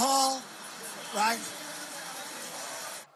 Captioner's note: laughing